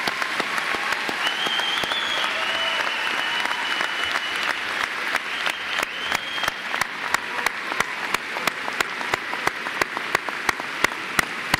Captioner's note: applause